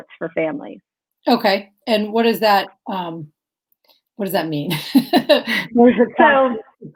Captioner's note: laughs